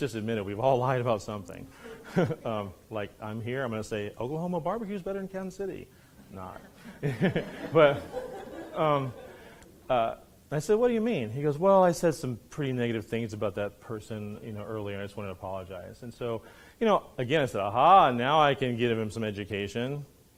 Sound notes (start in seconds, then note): 6.2 laughs; 8.9 students laughing